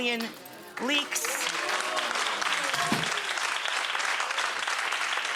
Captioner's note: audience clapping